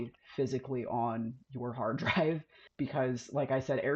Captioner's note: laughs